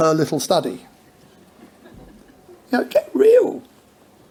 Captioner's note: audience laughs